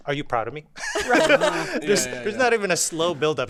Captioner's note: all laughing